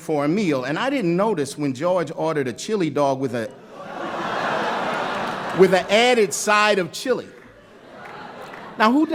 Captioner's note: laughter